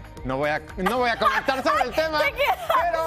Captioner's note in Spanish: risas